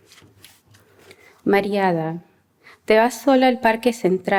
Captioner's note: non-english speech